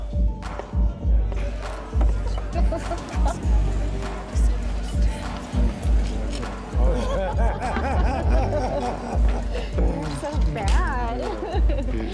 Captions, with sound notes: >> [ LAUGHING ] [ BOTH LAUGHING ] YOU'RE SO BAD!